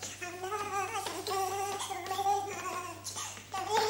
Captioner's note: humming